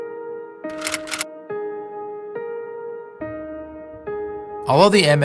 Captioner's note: pensive piano melody; typewriter keys clicking